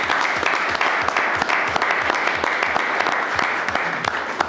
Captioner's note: audience applauding